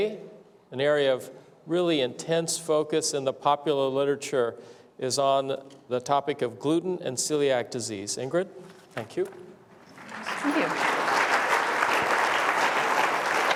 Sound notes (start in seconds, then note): 9.8 applause